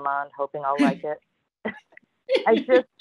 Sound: laughter

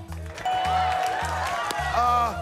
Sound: cheers and applause

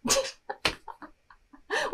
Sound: cracks up

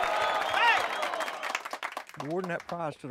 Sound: applause

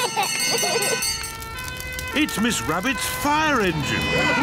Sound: children giggling; siren blares; all cheer

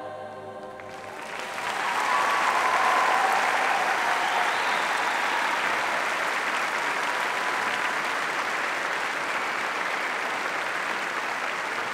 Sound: applause

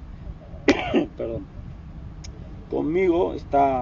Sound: caugh

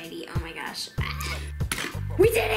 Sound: gasps; screams

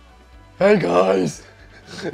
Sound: deep voice

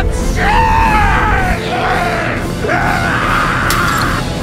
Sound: growling and screaming; glass breaks

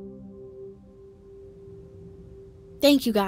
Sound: car Engine

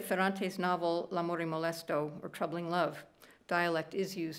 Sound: speaking italian

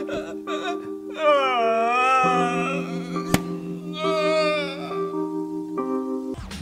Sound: still cries as he yeets his wig onto the table

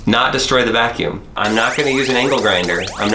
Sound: cartoony alarm buzzes

